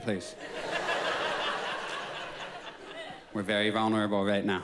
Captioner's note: audience laughs